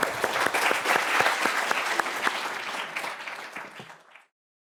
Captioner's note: audience applauding